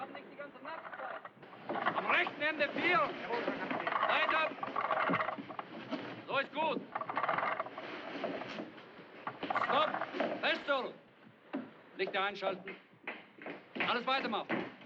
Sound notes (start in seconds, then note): 0.7 German